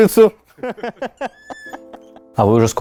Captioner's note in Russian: смех